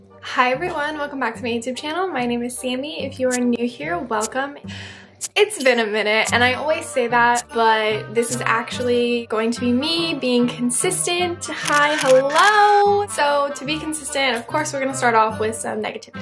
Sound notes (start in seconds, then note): 11.6 cameras click